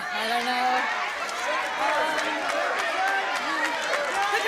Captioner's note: cheering and applause